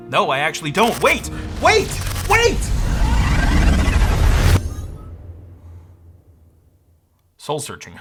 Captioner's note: mysterious interference